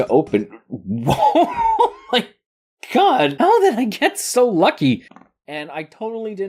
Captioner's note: laughs